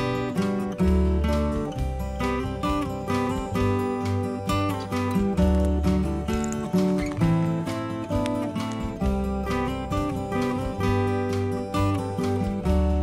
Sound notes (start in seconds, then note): 5.0 light footsteps